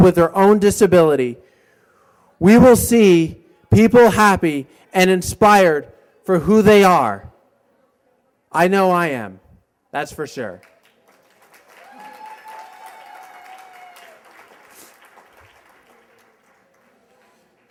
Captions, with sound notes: WITH THEIR OWN DISABILITY. WE WILL SEE PEOPLE HAPPY AND INSPIRED FOR WHO THEY ARE. I KNOW I AM. THAT'S FOR SURE. [applause]